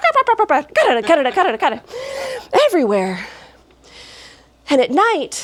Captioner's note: clackety clackety